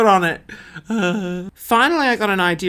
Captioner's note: moans